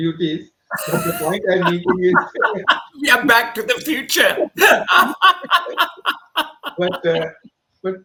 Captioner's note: laughs